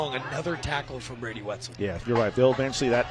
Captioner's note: laughter